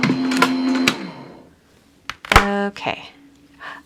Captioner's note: machine whirring